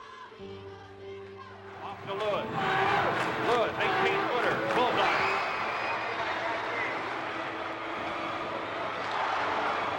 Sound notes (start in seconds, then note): 0.3 people murmuring; 6.4 crowd cheering